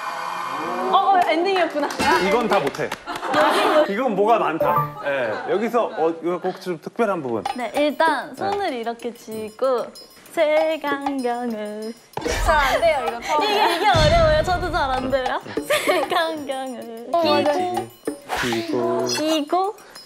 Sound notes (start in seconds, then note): 1.5 applause